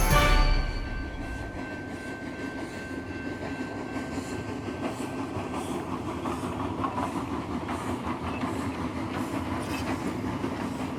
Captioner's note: sound of train passing